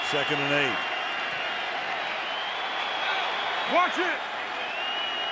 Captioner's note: cheering